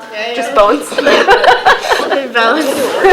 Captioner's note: laughs